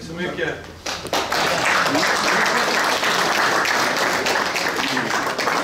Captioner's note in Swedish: Applåder